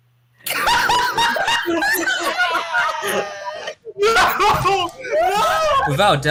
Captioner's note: crew laughing